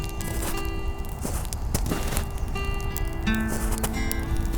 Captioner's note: slow footsteps in snow